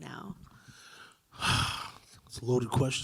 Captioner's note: sighing